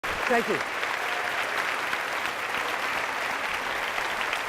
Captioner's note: applause